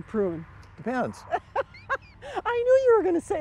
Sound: laughing

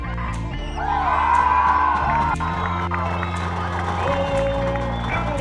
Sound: cheering

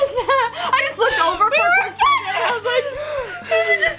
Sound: gasp

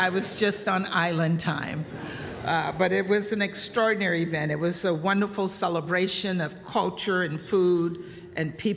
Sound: laughter

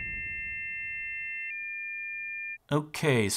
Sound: transition whooshes; modem handshake screeching

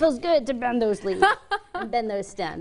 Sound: laughs

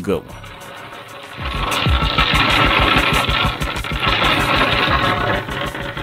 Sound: rocks hit the board

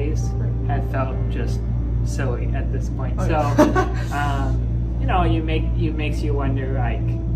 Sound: laughter

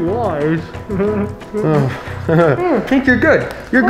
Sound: uncomfortable laughing

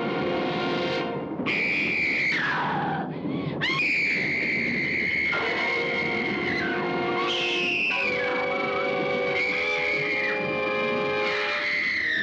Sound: suspenseful music; screaming; suspenseful music

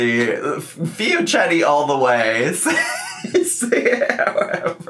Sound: laughs

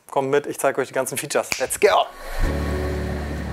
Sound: snips; relaxing music

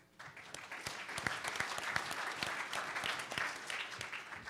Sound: audience applause

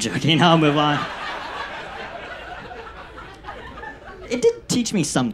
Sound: audience laughs

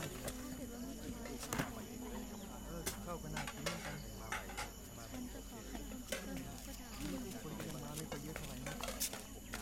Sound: Malay Language; plates sound

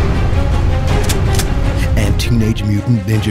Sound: gun cocks

